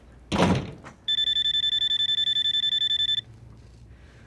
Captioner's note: phone ringing